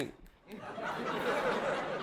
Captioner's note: audience laughing